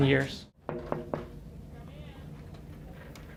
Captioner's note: knocking on door